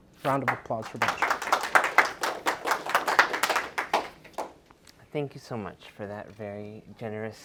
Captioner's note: applause